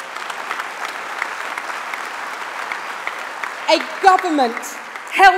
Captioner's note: applause